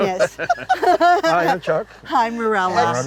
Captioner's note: laughing